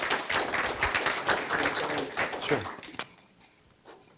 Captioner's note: clapping